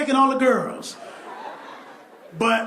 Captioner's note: laughter